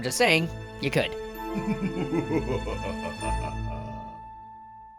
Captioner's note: evil laugh